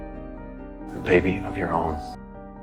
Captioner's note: voiceover